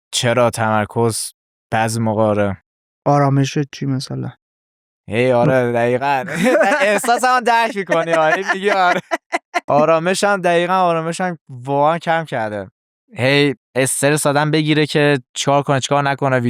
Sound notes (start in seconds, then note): 9.2 laughs